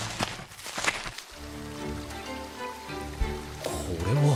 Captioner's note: water flowing